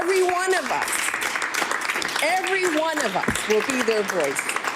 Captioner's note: some Applause